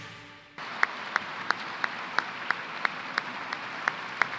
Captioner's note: applause